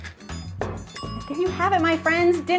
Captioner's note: bell dings